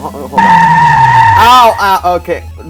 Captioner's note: brake sound